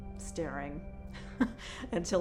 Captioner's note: laughs